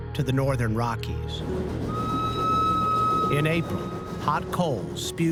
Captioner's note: train whistle blowing